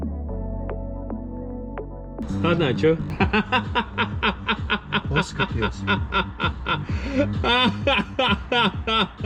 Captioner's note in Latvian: Smiekli